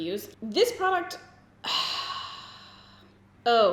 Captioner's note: sighs